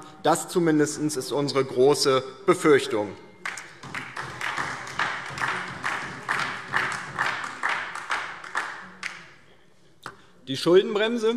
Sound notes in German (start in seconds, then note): 3.4 Beifall DIE LINKE und vereinzelt BÜNDNIS 90/DIE GRÜNEN